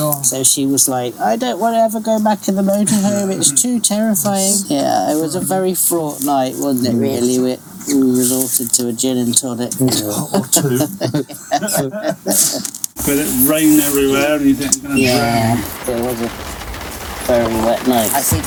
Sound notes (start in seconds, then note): 2.8 laughing; 4.8 sound of heavy rain falling on the roof of the motorhome